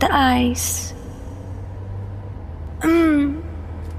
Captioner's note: car interior continues, uninterrupted